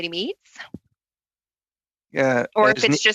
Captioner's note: laughter